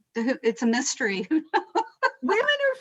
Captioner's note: laughing